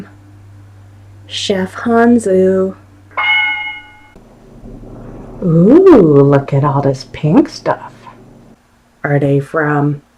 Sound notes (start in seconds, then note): 3.2 correct answer sound effect